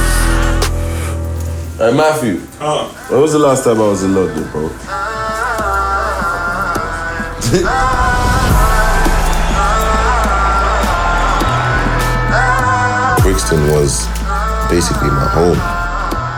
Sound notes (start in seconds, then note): 7.5 laughs; 8.6 crowd cheering